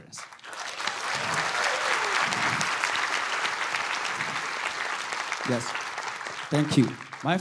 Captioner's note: applause